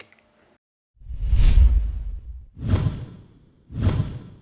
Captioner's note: swooshing